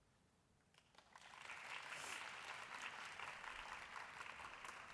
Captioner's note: applause